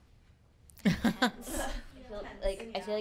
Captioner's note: laughing